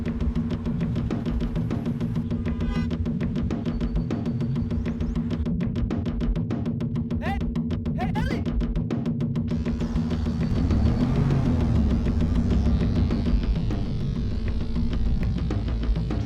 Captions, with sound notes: (car honks) - Hey, hey, Ellie! (tense music)